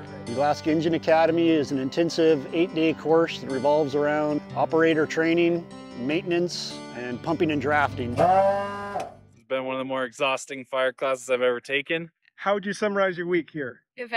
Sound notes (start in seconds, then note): 8.8 pump noise